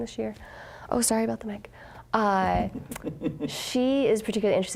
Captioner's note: chuckling